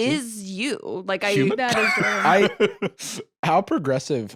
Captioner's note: laughs